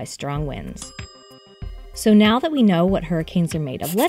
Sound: bell dinging

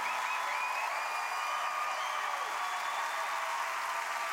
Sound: cheers and applause

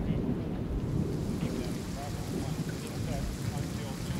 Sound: rain patters, thunder rumbles

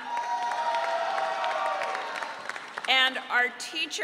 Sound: audience cheering

